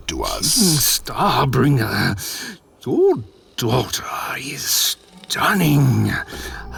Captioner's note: purring